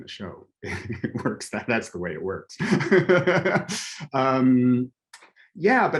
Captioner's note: laughing